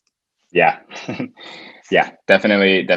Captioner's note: laughs